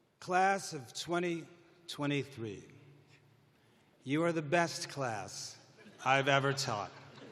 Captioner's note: laughter